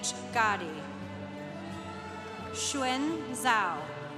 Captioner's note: congregation applauding